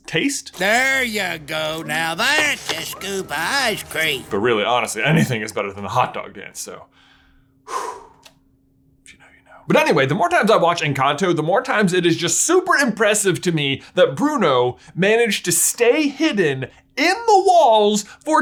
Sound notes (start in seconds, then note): 7.6 exhales sharply